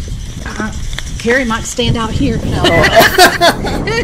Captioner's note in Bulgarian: смях